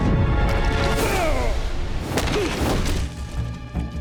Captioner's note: groaning